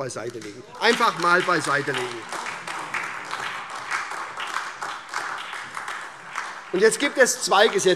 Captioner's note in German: Beifall SPD und AfD